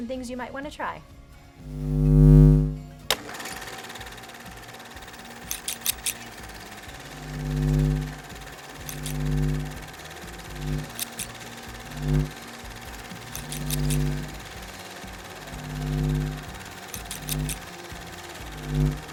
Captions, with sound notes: and things you might want to try. (rhythmic instrumental music) (snipping) (humming)